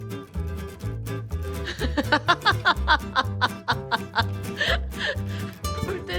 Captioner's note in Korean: 웃음